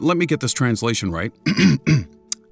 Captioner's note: clearing throat